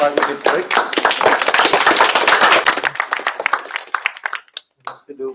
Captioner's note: applause